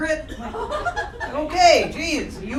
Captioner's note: crowd laughter